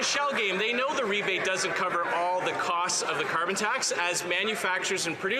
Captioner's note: some Applause